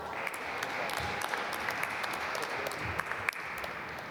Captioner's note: applause